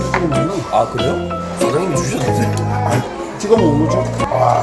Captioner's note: chewing